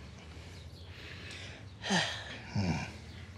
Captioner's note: sighs